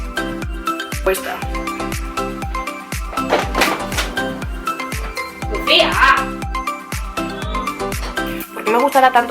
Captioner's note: screams are heard. I open the door